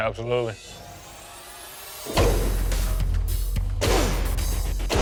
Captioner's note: blade impact sounds